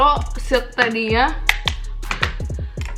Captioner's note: intense tapping